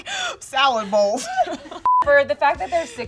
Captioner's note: beeping